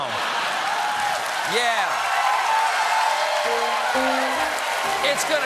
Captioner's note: laughter; applause; piano riff